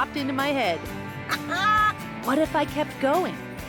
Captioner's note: laughs